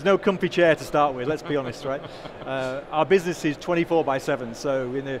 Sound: chuckling

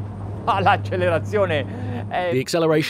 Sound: speaking in foreign language

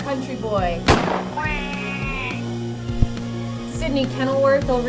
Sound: duck screams

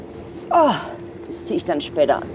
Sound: moan

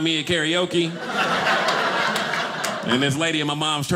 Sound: audience laughing

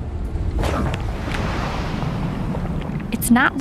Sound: water splashing

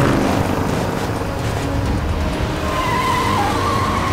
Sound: tires squealing

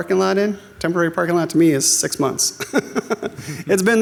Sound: laughs

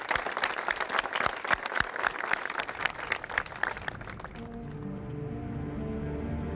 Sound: applause

